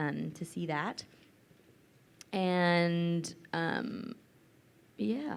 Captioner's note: none